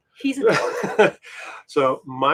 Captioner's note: laughing